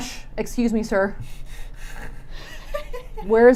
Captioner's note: laughing